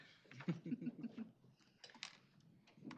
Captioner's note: both chuckling